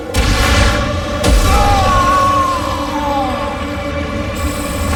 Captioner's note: screaming